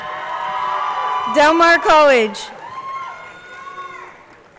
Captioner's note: crowd cheering